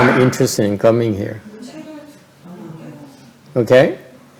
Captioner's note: background chattering